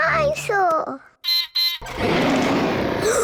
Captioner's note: beeps and roars; gasps and cries